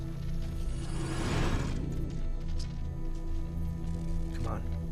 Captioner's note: doorway whooshing